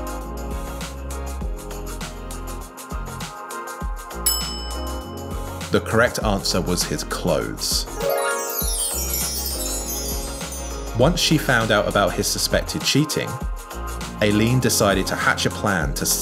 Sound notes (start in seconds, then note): 4.2 bell rings; 8.0 bright chimes